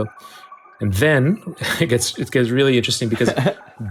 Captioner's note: chuckles